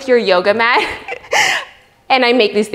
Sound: laughs

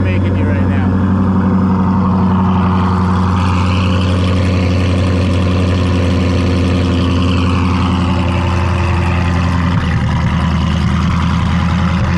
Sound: car engine running

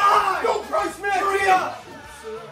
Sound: yelling

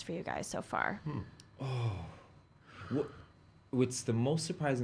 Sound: exhales sharply

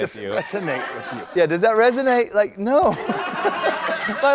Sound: laughter

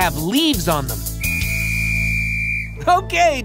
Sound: whistle blowing

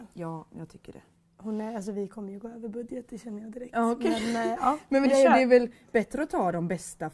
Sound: laughs

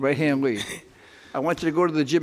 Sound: laughing

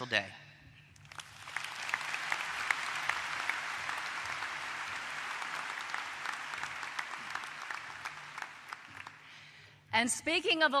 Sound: applause

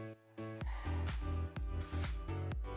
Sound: exhales

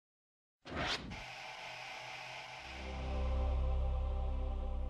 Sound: TV powers up, static, and deep-voice angelic singing

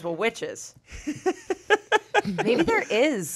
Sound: laughs

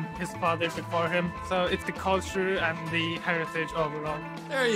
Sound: none

